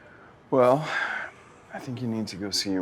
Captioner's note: sighs